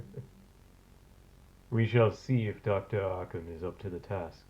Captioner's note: laughs